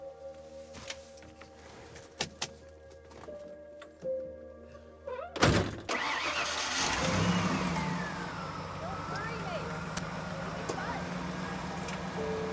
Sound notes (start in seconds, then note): 2.9 engine starting; 2.9 somber music